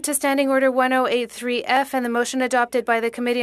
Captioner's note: speaking French